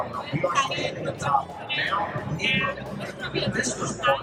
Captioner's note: speaker over monitors